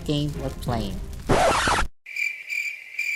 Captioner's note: record scratch; cricket chirps